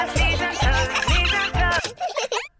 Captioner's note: giggling; music stops